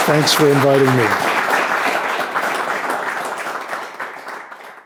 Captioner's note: applause